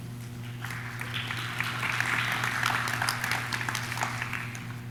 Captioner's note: audience claps